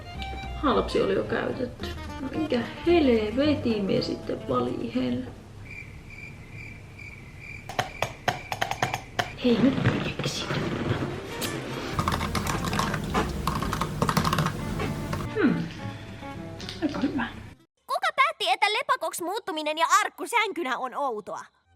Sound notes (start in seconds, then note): 5.6 crickets